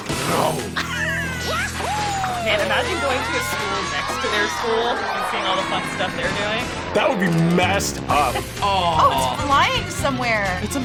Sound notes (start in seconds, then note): 0.2 exciting music; 7.3 airplane whirring